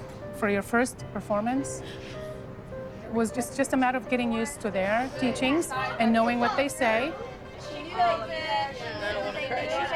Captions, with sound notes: For your first performance was just a matter of getting used to their teachings and knowing what they say. [indistinct chattering]